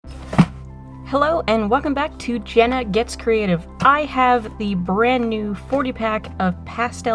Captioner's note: bag thumps